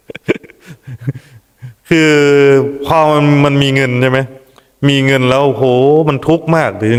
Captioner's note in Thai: เสียงหัวเราะ